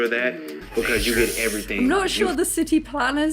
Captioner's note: sharp intake of breath